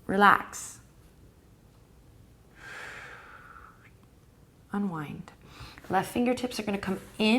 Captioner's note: breathing